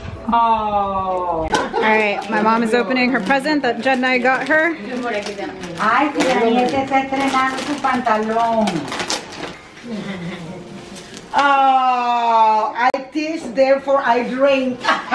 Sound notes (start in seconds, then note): 5.2 woman speaking foreign language in background; 14.9 laughing